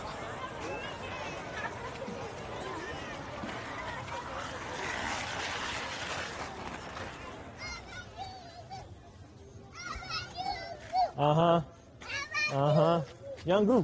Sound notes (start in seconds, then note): 7.1 children yelling